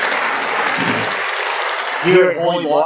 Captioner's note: applause